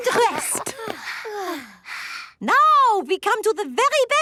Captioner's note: panting